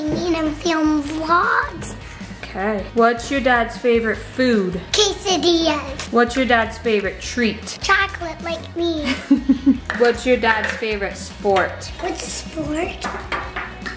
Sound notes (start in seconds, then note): 9.0 laughing